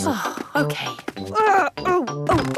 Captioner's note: groaning; exclamations